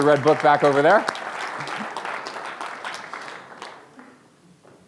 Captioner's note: applause